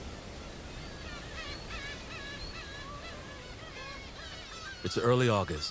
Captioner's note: birds cawing